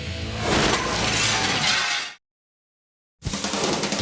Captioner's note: glass shattering; fast music